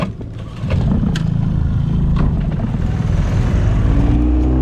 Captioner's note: engine rumbling loudly